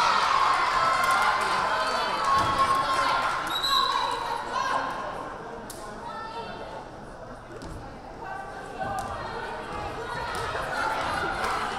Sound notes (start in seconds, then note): 3.4 whistle blaring; 3.5 crowd chattering